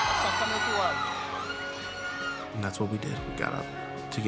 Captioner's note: crowd cheering